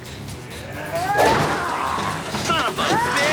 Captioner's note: grunting